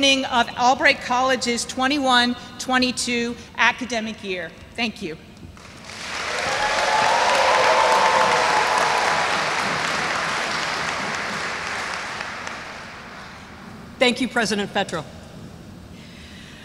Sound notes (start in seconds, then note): 5.6 audience applauds; 5.7 audience cheers